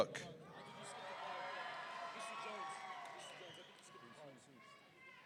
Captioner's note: audience cheering